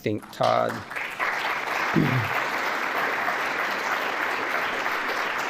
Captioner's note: applause